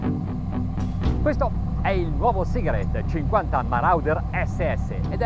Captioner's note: speaking Italian